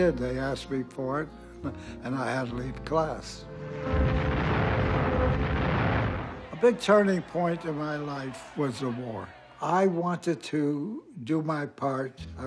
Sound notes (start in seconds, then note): 3.8 bombs booming